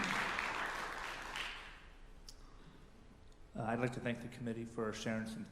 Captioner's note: applause